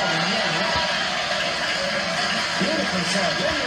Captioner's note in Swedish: Publiken jublar